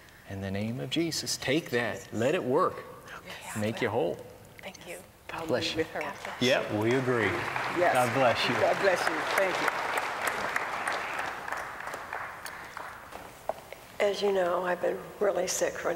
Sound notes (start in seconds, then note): 3.5 whispering; 8.1 applause